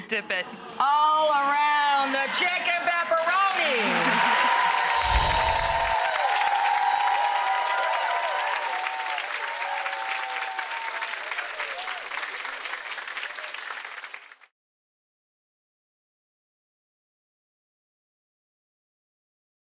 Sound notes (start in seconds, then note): 0.0 chuckles; 3.4 audience applauds and cheers